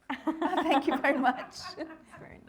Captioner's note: all laughing